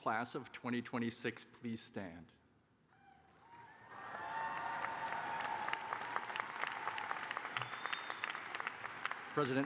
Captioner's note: cheers and applause